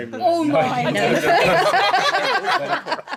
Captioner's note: laughing